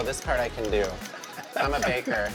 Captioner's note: laughter